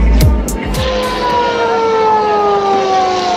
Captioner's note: police siren